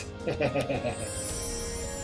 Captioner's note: laughs